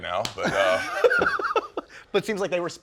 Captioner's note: laughs